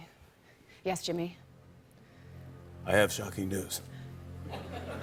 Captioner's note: deep voice; laughter